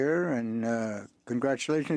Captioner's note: speaking French